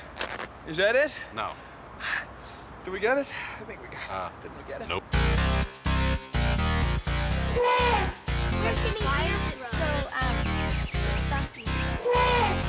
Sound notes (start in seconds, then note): 5.1 elephant trumpets